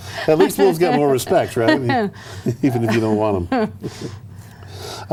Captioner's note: laughter